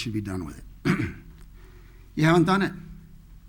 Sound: clears throat

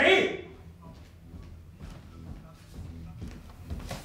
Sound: steps approaching

